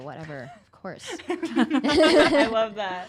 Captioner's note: women laughing